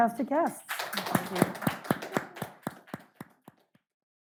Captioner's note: audience clapping